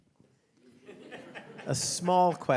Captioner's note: audience laughing